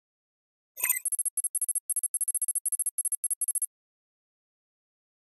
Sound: beep, code running

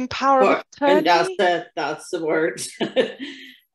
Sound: laughs

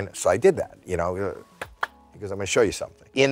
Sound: two claps

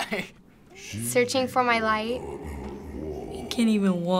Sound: in game: speaking foreign language; laughs

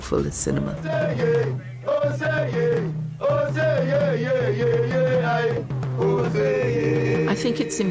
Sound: chanting

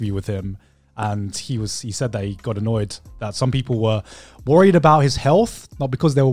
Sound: none

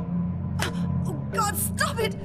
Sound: slap

